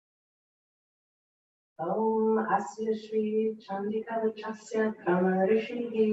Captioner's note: in Sanskrit